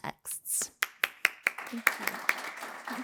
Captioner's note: audience applauds